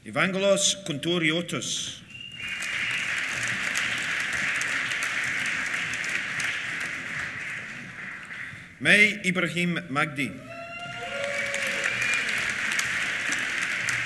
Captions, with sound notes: Evangelos Kountouriotis. (WHISTLING) (APPLAUSE) Mai Ibrahim Magdy. (CHEERS) (APPLAUSE)